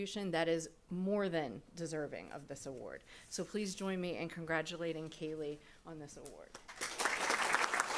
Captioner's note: applause